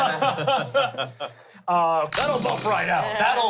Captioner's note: everyone laughs